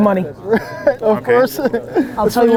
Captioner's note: laughs